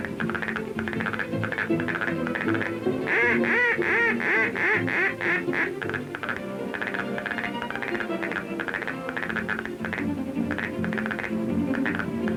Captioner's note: duck call continues